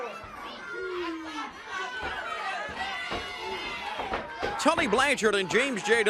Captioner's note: crowd chatter